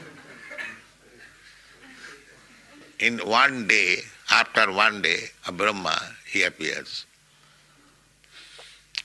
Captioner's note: laughter